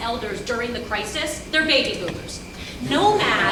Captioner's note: audience laughs